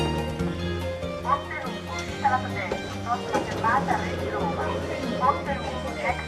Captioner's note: automated announcment